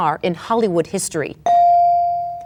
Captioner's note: bell dings